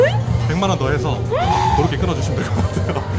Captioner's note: gasps